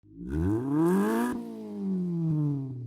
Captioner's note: engine revs